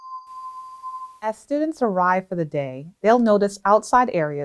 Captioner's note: bell tone